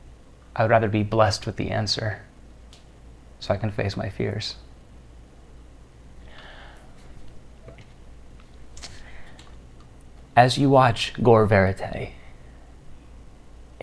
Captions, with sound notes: I would rather be blessed with the answer, so I can face my fears. (sighs) As you watch gore verite,